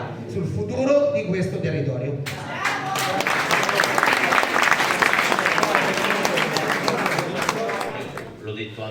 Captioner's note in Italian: Applauso